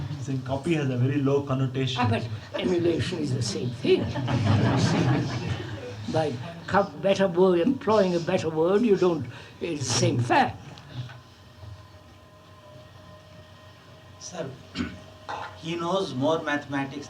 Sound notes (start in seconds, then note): 3.8 laughter